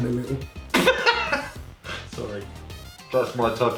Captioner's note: laughs